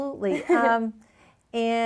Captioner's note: chuckles